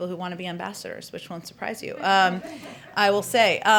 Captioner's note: laughter